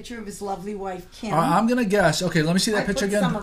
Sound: voiceover

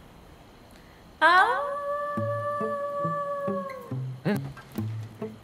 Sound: howls

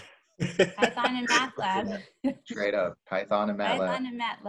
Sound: laughing

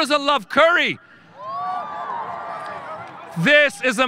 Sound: audience cheering

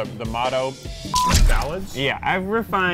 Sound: beep

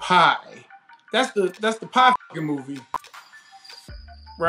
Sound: beep

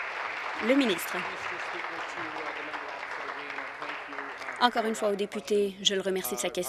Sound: applause

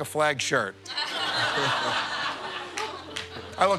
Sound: laughter

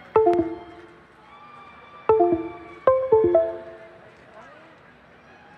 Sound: cheering

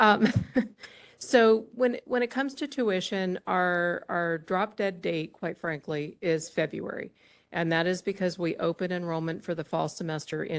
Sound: laughter

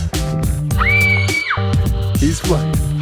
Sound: squeals

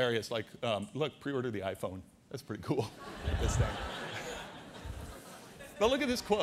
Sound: audience laughter

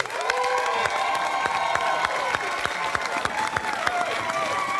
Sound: cheers and applause

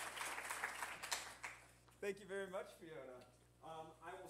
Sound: applause

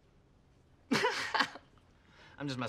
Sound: laughs

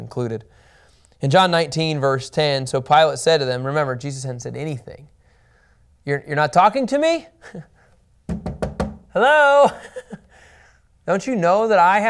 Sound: knocking on desk

